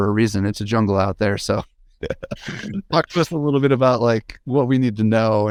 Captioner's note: laughs